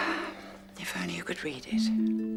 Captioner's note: sighs